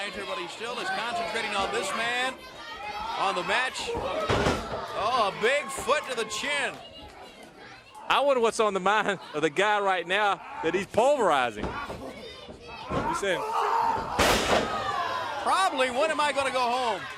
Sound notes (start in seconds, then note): 3.5 crowd chatter